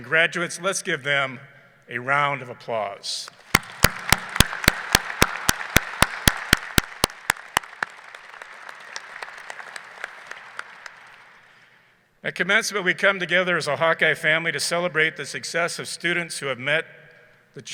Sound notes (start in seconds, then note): 3.3 people clapping